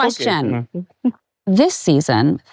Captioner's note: laughs